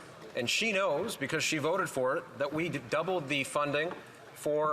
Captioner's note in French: voix de l'interprète